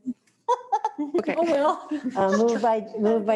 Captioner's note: they laugh